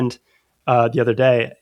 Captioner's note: uh